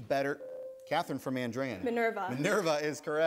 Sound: ding

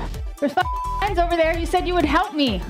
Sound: beep

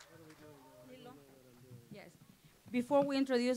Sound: applause

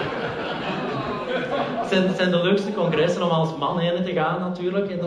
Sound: laughter

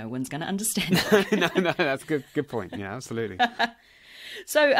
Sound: laughs

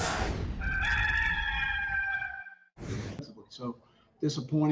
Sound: rooster crowing

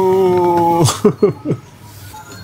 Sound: laughs

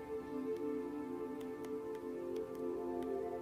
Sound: keypad clacking

